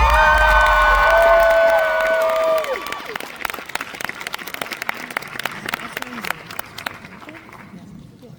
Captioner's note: applause!